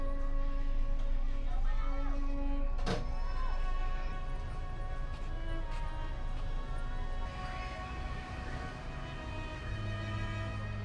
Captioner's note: people chattering